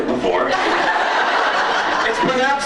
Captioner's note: laughs